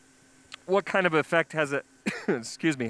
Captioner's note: coughs